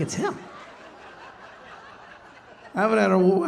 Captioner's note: audience laughing